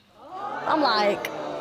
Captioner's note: audience gasping